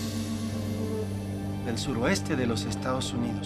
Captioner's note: speaking Spanish